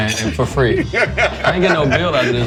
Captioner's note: laughing